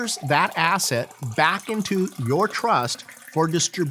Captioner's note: liquid pouring